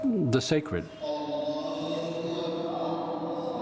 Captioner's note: congregation chanting